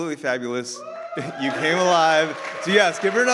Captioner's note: audience applauds